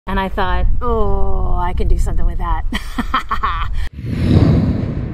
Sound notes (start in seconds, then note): 2.8 laughing